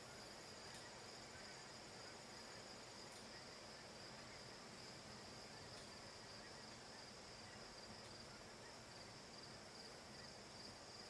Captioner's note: crickets chirping